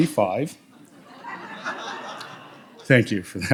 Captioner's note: audience laughs